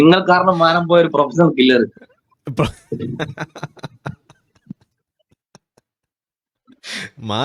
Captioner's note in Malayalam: പൊട്ടിച്ചിരി